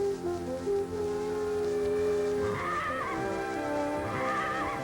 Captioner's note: neigh